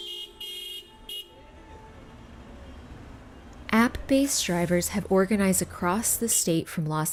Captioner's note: cars honking